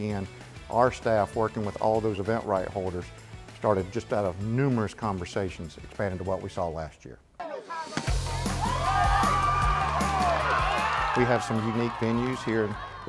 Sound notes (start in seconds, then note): 8.0 crowd cheering